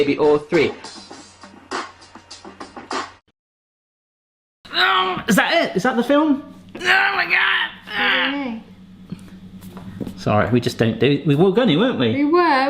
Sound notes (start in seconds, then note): 4.9 painfully grunting